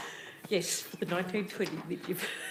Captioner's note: laughs